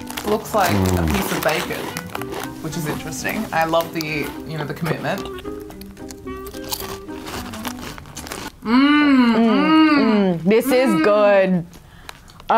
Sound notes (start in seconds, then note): 0.7 laughs; 5.7 both munching